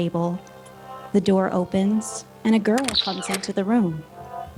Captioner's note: opening door